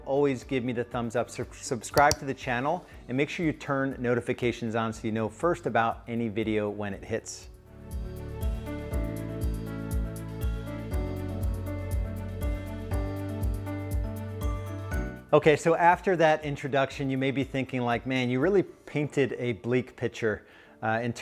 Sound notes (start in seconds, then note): 2.0 clicks; 8.0 gentle music